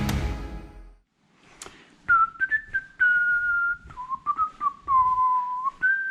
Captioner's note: carefree whistling